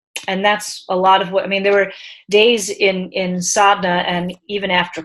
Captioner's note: speaking in foreign language